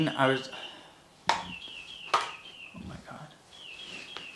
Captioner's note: birds chirping